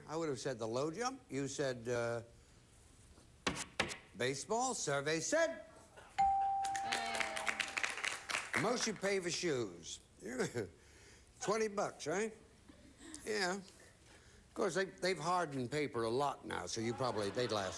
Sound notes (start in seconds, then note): 6.6 audience applauding